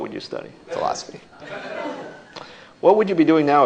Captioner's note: laughter